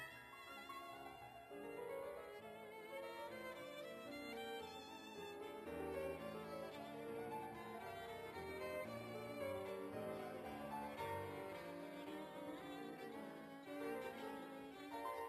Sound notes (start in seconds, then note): none